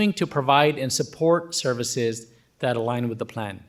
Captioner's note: none